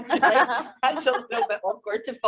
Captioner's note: laughing